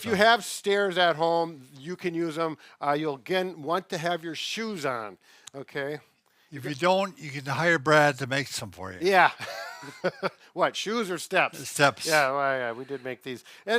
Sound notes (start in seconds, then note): 9.3 laughs